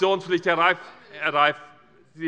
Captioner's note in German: Zuruf